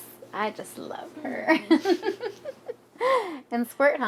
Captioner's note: chuckles